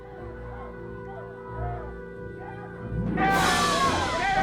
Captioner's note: crowd yelling